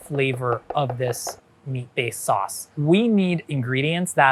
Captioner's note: knife chopping